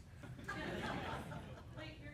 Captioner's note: more chuckles